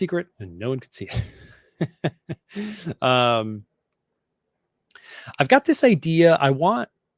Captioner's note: laughs